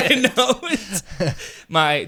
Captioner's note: both laugh